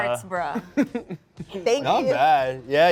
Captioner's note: laughs